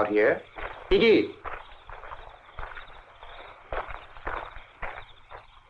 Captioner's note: soldier speaking in Russian